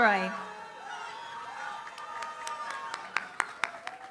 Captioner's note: applause